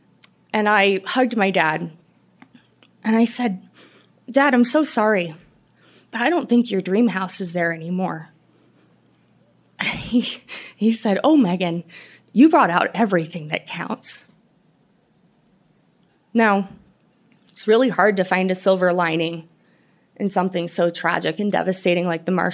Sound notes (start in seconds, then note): 9.7 choking up